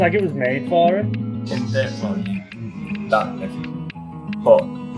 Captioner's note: mumbling